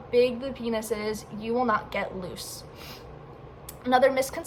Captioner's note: sniff